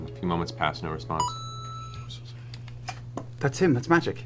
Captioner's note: Mario coin sound